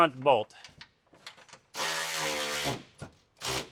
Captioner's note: drilling